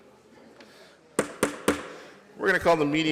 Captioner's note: gavel thumping